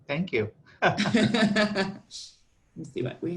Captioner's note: laughter